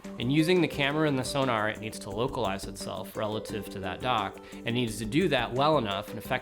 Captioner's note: none